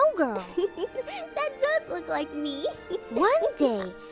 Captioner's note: chuckles